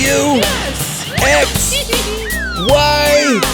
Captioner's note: laughing